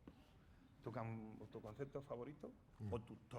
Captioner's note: speaking spanish